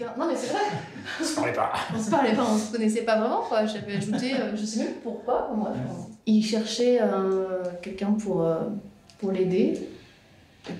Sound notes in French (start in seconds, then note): 0.6 rires